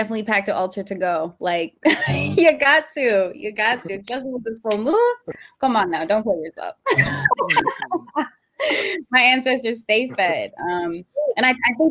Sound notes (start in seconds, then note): 1.9 laughs; 6.8 laughter